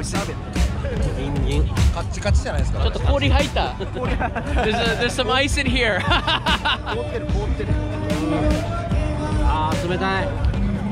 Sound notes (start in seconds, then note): 6.5 laughs